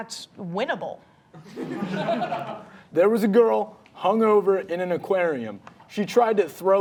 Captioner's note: audience laughing